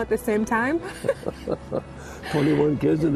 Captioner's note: laughter